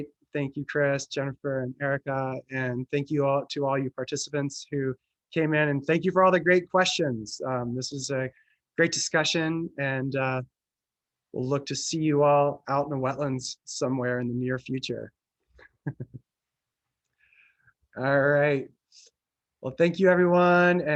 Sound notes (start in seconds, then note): 15.8 laughs